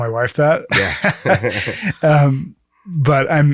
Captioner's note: laughs